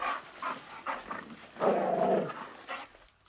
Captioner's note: growling